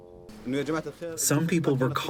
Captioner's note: through translator